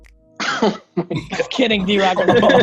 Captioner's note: laughs